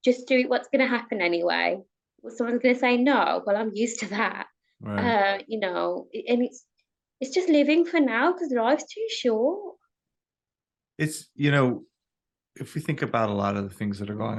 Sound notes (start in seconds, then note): 4.7 chuckles